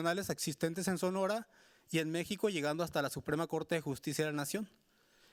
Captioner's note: speaking Spanish continues